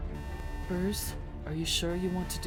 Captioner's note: computer Voice